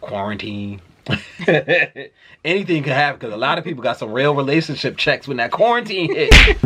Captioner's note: punch sound effect